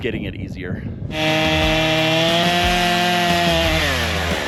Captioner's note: saw whirring